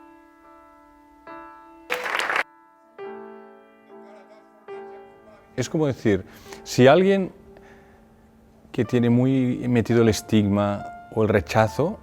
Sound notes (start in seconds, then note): 1.9 applause; 2.4 classical piano music